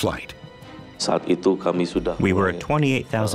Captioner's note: speaking foreign language